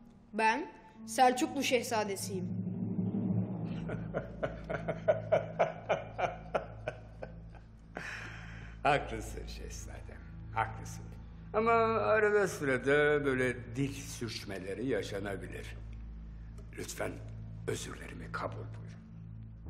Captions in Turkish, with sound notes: Ben Selçuklu Şehzadesiyim. (Gülme sesi) Haklısın Şehzadem, haklısın. Ama arada sırada böyle dil sürçmeleri yaşanabilir. Lütfen özürlerimi kabul buyurun.